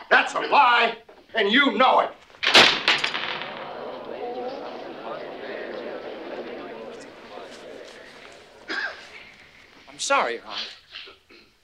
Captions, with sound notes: - That's a lie and you know it. (pitchfork banging) (crowd muttering) - I'm sorry, Your Honor.